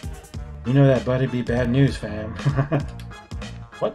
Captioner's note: laughs